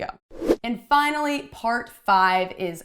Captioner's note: whooshing